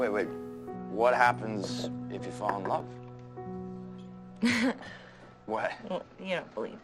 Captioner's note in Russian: она смеется